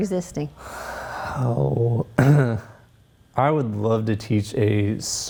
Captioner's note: exhales